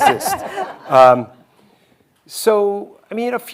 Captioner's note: hosts laughing